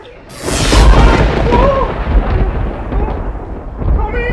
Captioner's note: lightning strikes!